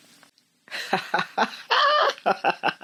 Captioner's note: laughs